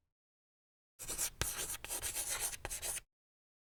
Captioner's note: chalk scratching